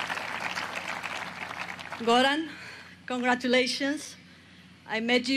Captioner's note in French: applause